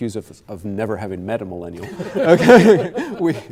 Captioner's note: laughter